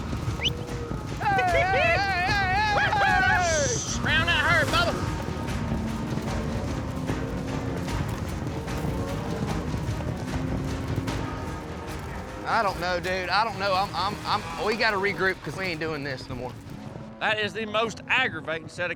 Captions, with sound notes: [WHISTLING, SHOUTING] ROUND THAT HERD, BUBBA! [HOOFBEATS] I DON'T KNOW, DUDE. I DON'T KNOW. WE GOTTA REGROUP 'CAUSE WE AIN'T DOIN' THIS NO MORE. THAT IS THE MOST AGGRAVATING SET OF COWS